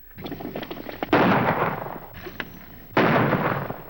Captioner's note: gunshots